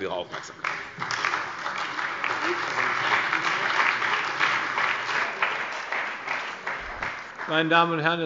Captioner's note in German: Beifall bei der CDU und dem BÜNDNIS 90/DIE GRÜNEN